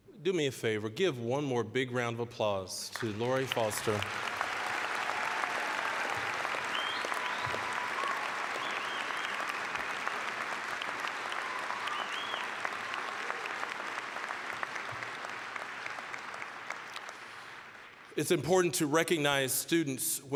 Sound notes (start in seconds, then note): 2.9 applause, cheering; 14.5 applause